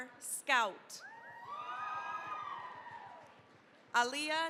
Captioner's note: cheering, applause